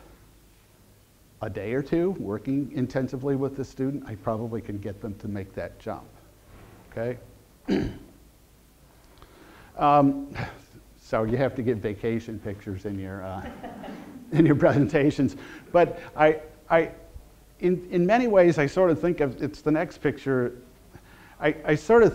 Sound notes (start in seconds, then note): 13.4 audience laughter